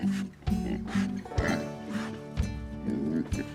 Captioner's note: oinks